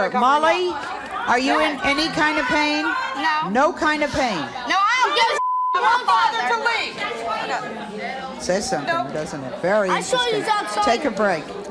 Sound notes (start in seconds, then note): 5.3 beep